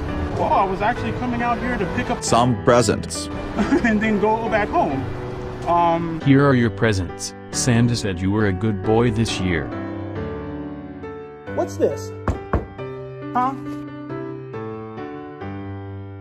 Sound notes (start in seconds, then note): 3.6 jolly laugh; 12.0 festive knocking